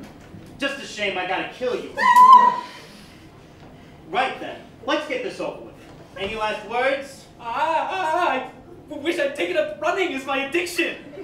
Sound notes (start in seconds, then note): 1.9 Corrine Screams